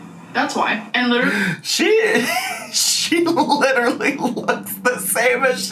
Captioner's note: laughs